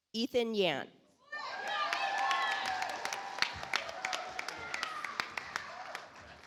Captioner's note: audience applauds